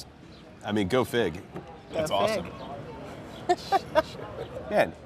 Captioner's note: laughing